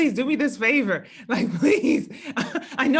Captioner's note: laugh